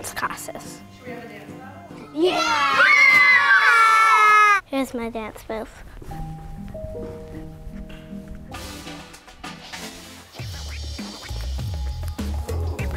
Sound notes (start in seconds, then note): 2.2 all cheering; 6.0 soft classic music; 10.3 hip hop dance music